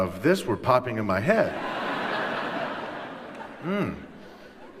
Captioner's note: laughter